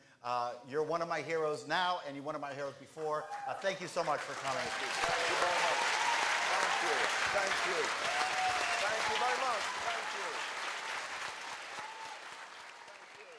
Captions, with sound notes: You are one of my heroes now and you were one of my heroes before and thank you so much for coming. [APPLAUSE]